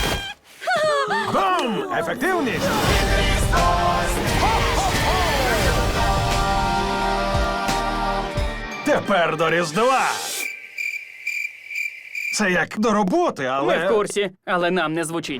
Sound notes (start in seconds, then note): 0.3 gasps; 10.3 crickets chirping